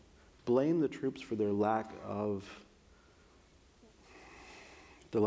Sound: sighs

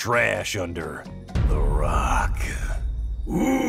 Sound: dramatic thump

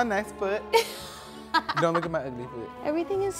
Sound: laughs

